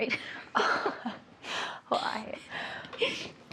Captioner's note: both laughing